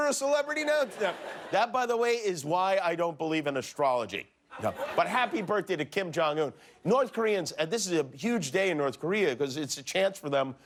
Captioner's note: laughter